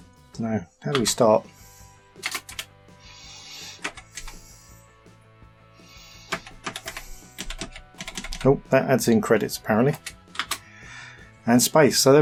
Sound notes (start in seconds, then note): 3.0 clicking